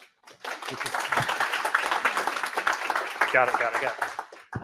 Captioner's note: applause